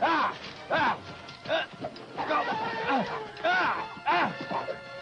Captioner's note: whinnies loudly